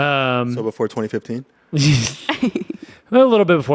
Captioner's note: everyone laughs